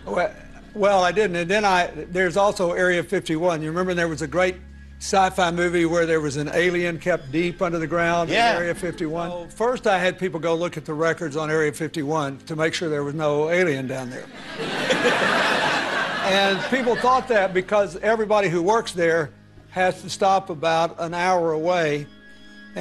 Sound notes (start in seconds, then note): 14.3 audience laughter